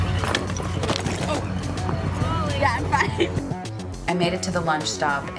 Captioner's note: camera clatters; laugh